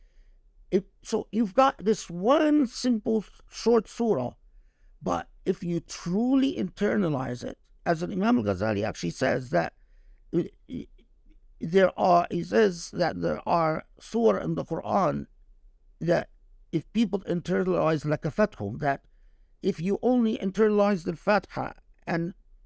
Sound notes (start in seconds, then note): 18.1 speaking Arabic; 21.4 speaking Arabic